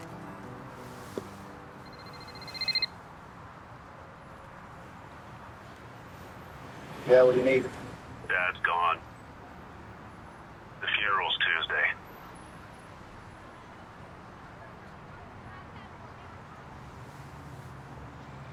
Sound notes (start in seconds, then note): 1.8 phone rings